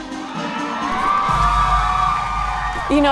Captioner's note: cheering